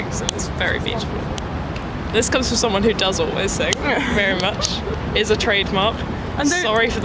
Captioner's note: laughs